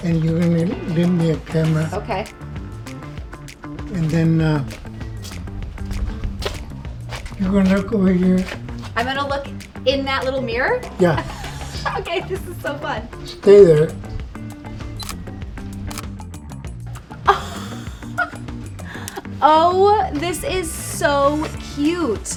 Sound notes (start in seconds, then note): 11.0 Jillian giggling; 14.9 camera clicking; 17.2 Jillian giggles